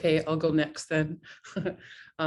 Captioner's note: laugh